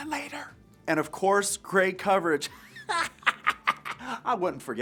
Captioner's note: laughs